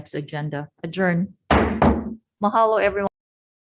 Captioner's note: gavel bangs twice